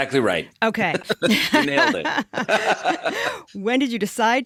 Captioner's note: laughter